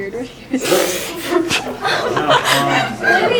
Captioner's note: laughing